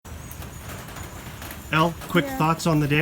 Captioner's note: rain pelting